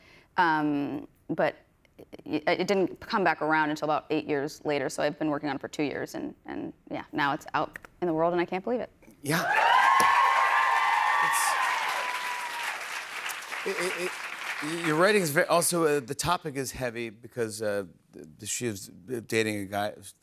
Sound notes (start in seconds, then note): 9.3 cheers and applause